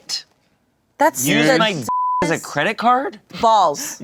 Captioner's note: beep